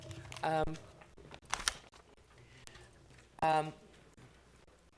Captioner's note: paper crinkling